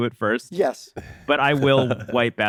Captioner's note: laughs